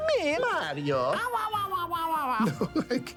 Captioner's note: laughing; babbling